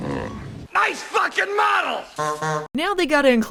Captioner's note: honking